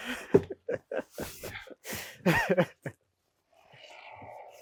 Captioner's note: speaker laughing